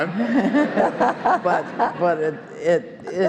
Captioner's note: all laughing